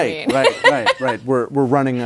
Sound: laughs

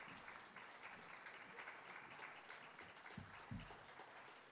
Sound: audience applauding

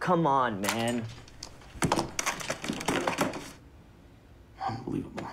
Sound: headphones dropping

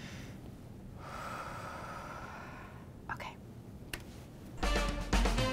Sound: exhales softly; sultry funk music

